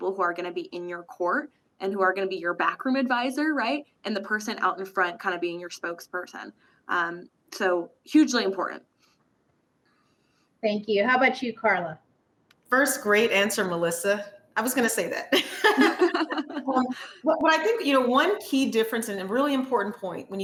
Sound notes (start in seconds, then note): 15.3 chuckling